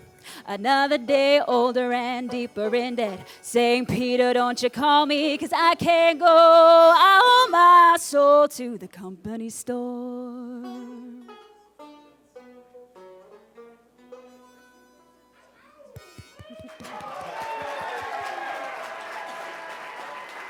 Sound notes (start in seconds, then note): 16.3 cheers and applause